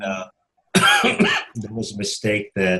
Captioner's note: coughs